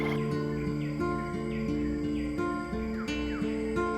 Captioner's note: birds singing